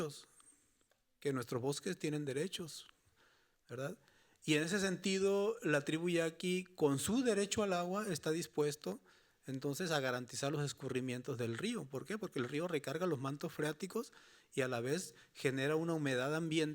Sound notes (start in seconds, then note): 8.7 speaking Spanish continues